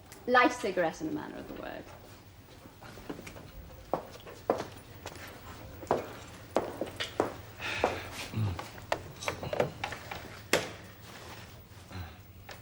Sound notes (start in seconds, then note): 8.3 RICHARD sighs